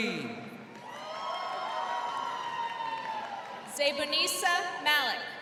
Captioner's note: crowd cheering